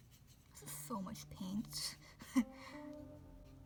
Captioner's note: laughs